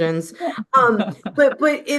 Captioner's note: laughing